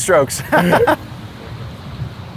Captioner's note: laughs